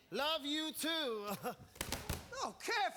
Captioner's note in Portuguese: laughs